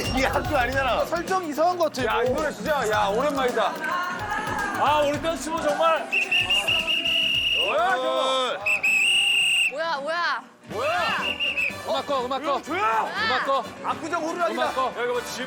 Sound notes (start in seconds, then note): 6.0 blowing a whistle